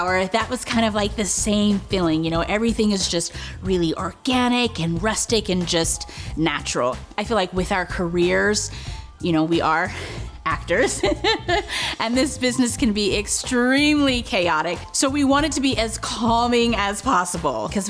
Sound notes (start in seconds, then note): 10.8 laughs